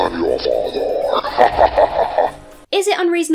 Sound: devious laughing; ominous ambient music

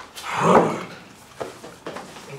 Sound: groans

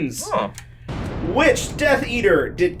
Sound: lightning crashing

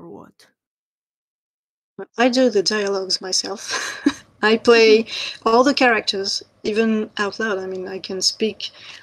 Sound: laughs

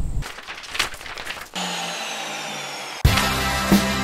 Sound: sound of the angle grinder; rock music

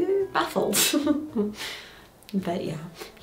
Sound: giggling

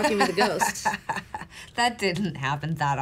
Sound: laughing

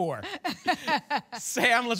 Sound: laughs

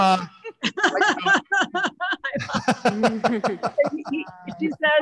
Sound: panelists laughing

